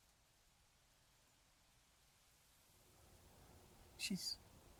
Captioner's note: wind